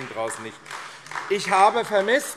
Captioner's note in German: Beifall AfD